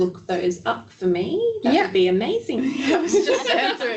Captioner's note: laughing